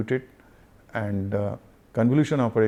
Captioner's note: noise filtering